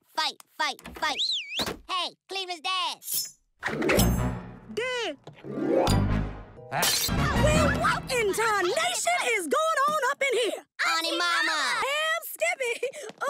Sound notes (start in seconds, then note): 1.2 Rallo whistles